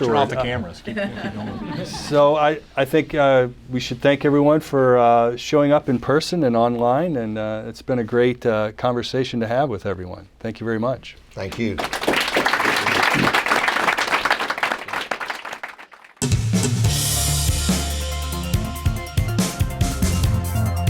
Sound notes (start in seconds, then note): 11.4 applause